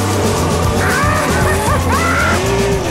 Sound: cackling

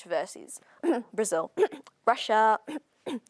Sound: ahem; ahem

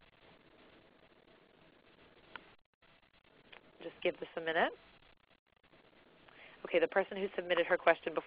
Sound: silence

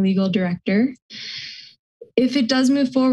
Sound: inhales

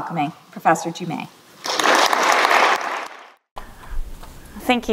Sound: applause

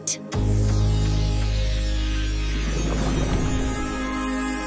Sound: shimmering tone

